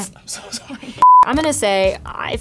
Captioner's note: beep